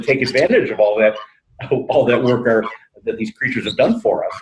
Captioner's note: laughs